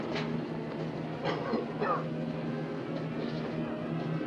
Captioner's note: coughs